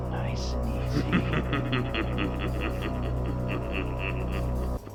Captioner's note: X Knight laughing